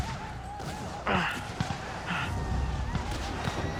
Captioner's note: yelling, gunfire continues